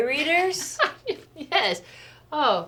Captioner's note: laughs